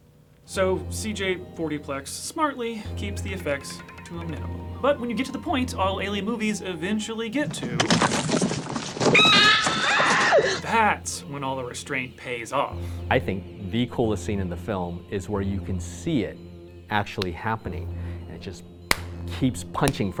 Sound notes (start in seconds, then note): 7.7 cracking and screaming sound effects